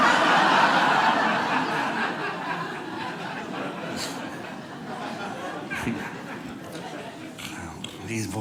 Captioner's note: audience laughing